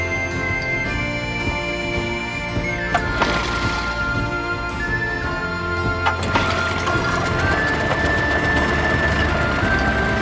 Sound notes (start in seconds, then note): 3.0 motor sputtering; 6.1 motor starting